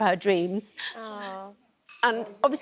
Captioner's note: cries